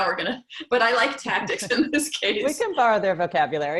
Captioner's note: laugh